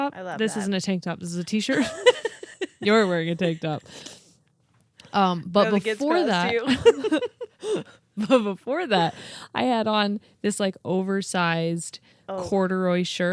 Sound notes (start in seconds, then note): 1.7 laughs; 6.4 laugh